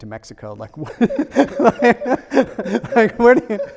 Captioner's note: laughs